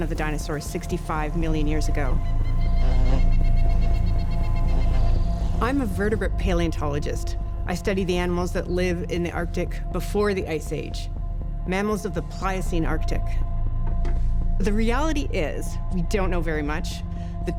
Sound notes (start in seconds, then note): 3.6 birds calling